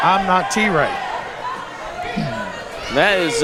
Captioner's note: crowd shouting